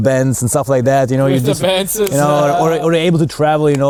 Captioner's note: laughs